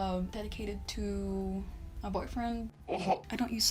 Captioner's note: pukes sarcastically